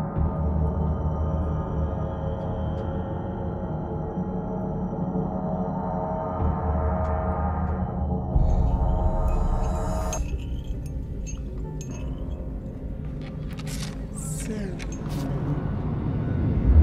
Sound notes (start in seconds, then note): 9.2 spoon clinking; 13.7 deep voice